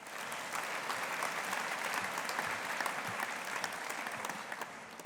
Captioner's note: audience applauding